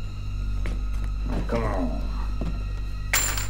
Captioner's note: coins clatter